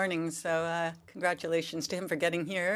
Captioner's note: speaking French